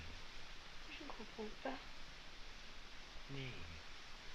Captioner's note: girl continues speaking french